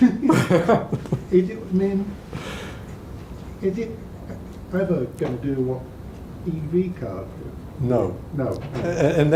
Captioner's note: laughs